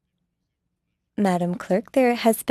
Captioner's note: speaking French